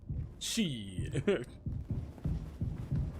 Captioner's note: laughs